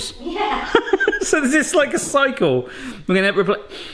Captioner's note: laughs